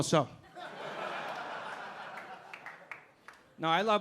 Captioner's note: audience laughing